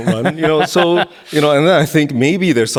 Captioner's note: laughing